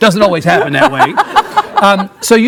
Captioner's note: Isabella laughing